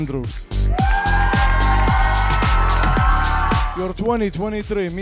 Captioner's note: audience cheering